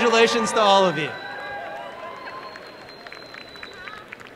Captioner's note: applause and cheering